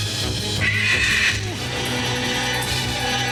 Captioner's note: squawk